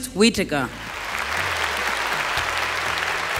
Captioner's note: applause